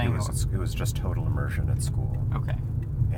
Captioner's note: none